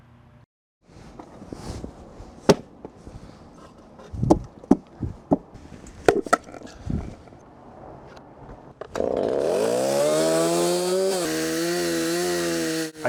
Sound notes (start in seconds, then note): 2.4 thuds; 8.9 chainsaw engine revving